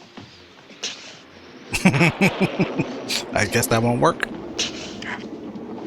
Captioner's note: laughing